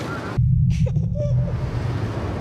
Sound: baby laughing; ambient street sounds

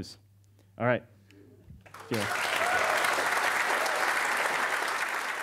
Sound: audience cheers

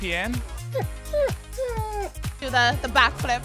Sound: dog whining

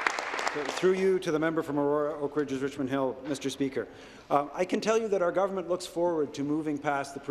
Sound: applause

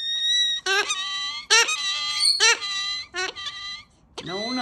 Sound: bird squawking

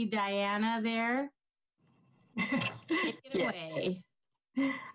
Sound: chuckles

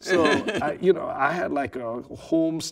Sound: laughing

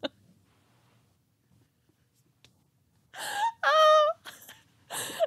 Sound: laughing

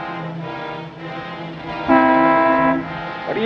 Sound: horn honking

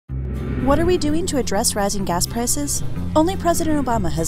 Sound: voiceover

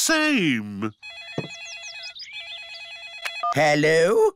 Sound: phone rings

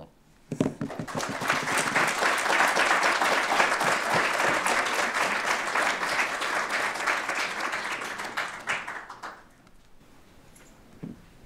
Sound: audience Applause

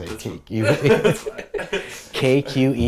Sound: laughing

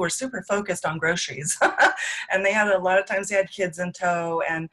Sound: laughs

